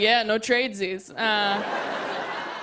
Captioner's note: laughter